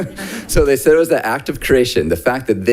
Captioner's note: laughs